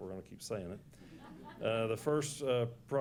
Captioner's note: laughs